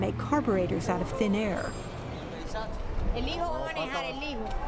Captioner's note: speaking spanish